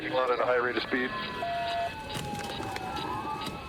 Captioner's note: sirens blaring